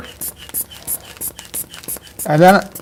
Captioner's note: bulb pumping